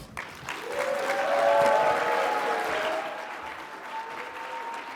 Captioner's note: audience cheering and clapping